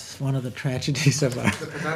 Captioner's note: laughs